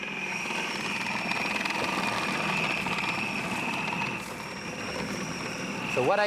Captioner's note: food processor continues whirring